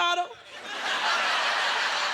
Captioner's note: laughter